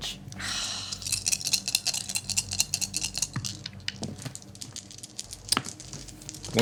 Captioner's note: dice rattling; groaning